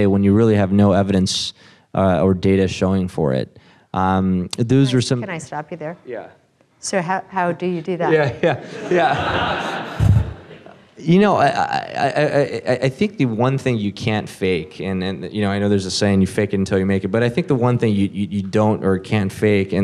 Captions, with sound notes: when you really have no evidence or data showing for it? - Can I stop you there? - Yeah. - So how do you do that? - Yeah. (audience laughs) I think the one thing you can't fake, and I know there's a saying you fake it until you make it, but I think the one thing you don't or can't fake,